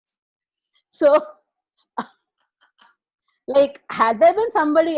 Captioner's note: laughs